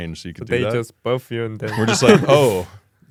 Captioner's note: laughs